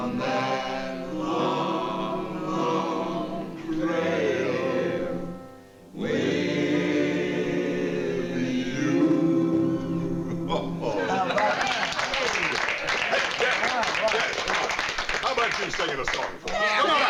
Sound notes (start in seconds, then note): 10.3 laughs; 11.3 applause